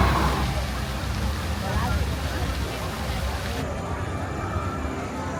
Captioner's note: fountain splashes